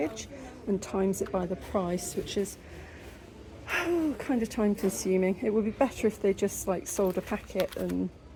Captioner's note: sigh